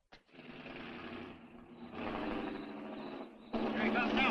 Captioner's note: engine rumbling